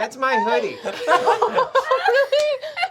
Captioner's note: laughing